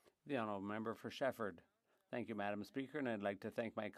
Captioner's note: speaking French